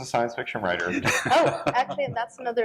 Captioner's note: laughter